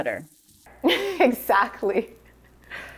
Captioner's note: chuckles